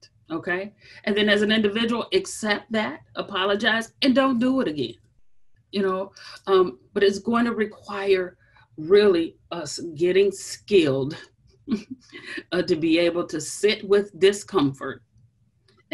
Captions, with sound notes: And then as an individual accept that, apologize and don't do it again. But it's gonna require really us getting skilled (chuckles) to be able to sit with discomfort